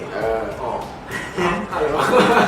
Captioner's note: laughs